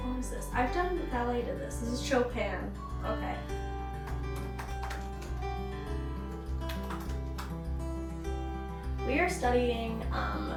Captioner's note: typing